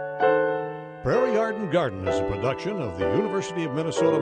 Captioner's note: gentle piano music; voiceover